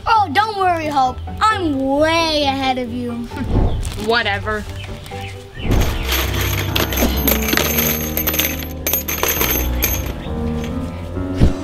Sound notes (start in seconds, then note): 5.6 nails rattling